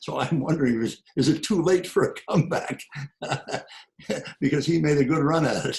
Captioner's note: laughs